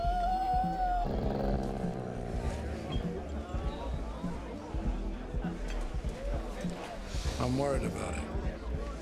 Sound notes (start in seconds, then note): 0.0 dog whines; 0.7 dog growls; 3.8 attendees chattering; 3.8 upbeat music